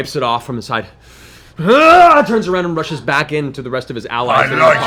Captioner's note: war cry